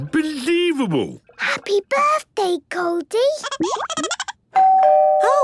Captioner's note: Goldie giggling; doorbell ringing